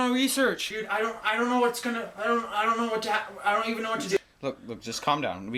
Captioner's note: indiscernible nervous chatter